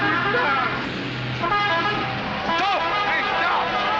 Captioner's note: bus horn